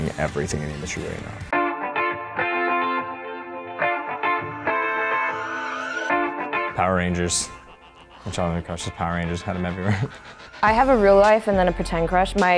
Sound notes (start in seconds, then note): 2.3 upbeat pop music; 9.8 laughs